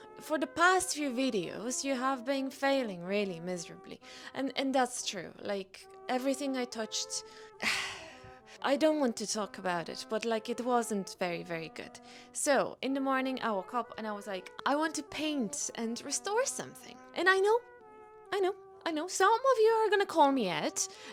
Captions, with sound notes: For the past few videos, you have been failing really miserably and... and that's true like everything I touched... *sighs* I don't want to talk about it But like it wasn't very, very good So In the morning, I woke up, and I was like, I want to paint and restore something and I know I know. I know. Some of you are going to call me out